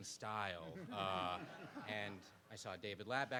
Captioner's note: participants laugh